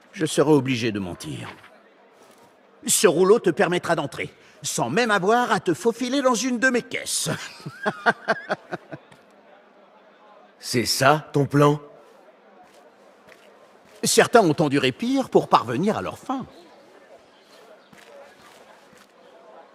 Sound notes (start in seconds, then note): 7.3 laughs